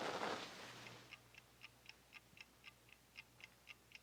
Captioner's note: clock ticking